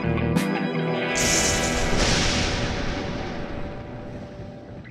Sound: thunder booming

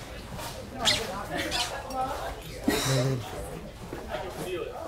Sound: crowd murmuring

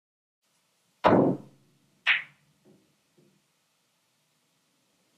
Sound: cue stick hitting ball

